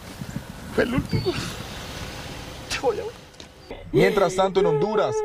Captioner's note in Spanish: llora